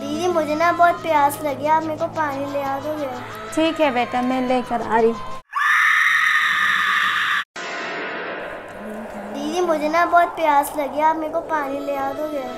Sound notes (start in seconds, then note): 5.4 screaming